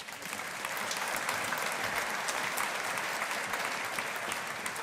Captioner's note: audience applauding